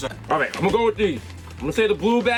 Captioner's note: laughs